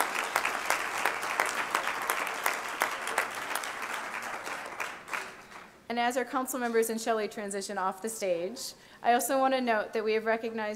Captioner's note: applause